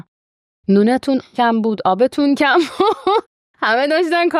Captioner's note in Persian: خنده